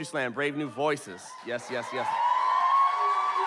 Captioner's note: audience cheers and applauds